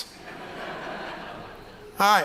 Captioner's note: laughter